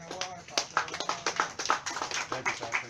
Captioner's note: clapping